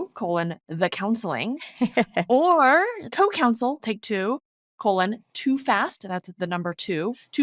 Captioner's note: laughing